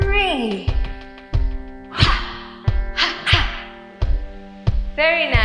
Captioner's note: breathy adlib